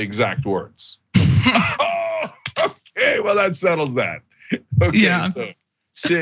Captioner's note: laugh